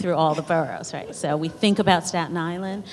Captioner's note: laughter